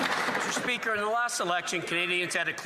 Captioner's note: applause